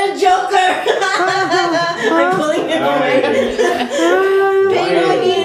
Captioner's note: whimpering; whimpering continues